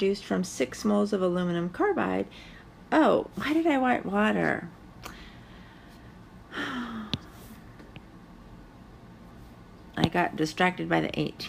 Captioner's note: sigh